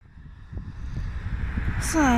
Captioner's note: traffic